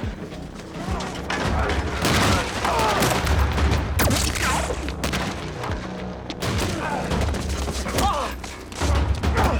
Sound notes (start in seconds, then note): 1.4 grunting; 4.1 gun firing; 7.2 grunting